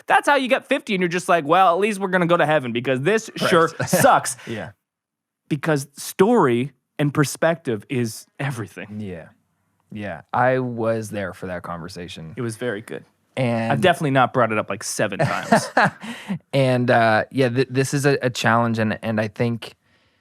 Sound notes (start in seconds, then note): 3.3 laughs; 15.2 laughing